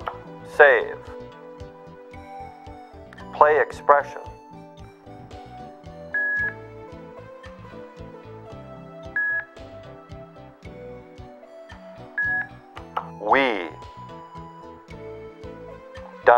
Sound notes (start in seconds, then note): 5.9 GoTalk beeps each time row lights up